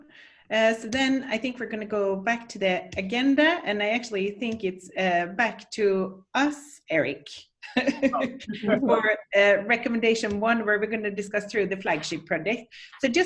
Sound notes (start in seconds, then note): 7.7 chuckles